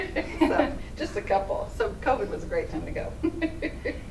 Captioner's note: laughing